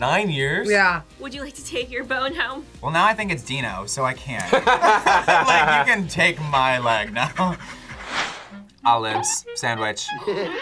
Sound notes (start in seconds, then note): 4.4 both laugh; 7.3 pants